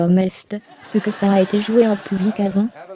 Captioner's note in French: L'audience rit